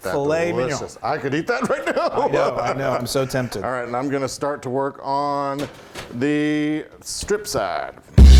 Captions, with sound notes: >> Fillet Mignon. >> I could eat that right now. [LAUGH] >> I know, I'm so tempted. >> All right, and I'm going to start to work on the strip side.